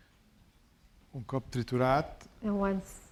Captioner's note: speaking spanish